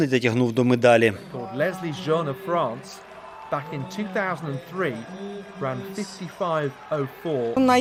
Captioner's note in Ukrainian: оплески і крики